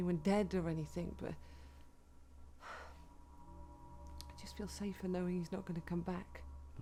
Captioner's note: sighs